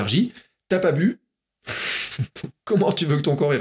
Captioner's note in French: rire